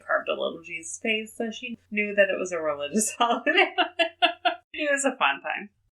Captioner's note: laughs